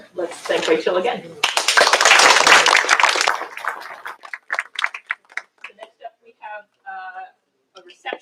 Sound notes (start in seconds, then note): 1.4 applause